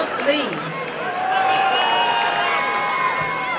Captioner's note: applause and cheering